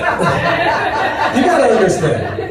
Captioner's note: laughter